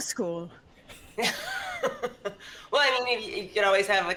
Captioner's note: laughs